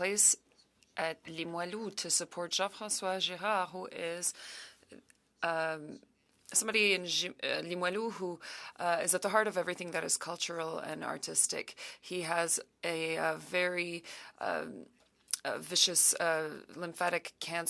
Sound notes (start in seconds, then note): 7.9 speaking French